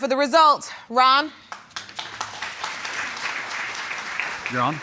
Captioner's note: audience applauds